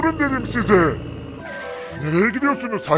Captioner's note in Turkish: Fren sesi